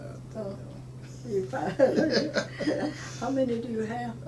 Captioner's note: laughing